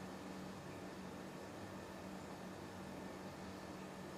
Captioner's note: none